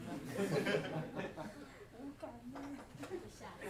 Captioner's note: audience laughs